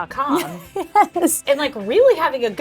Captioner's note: laughing